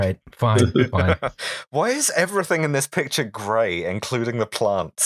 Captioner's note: laughter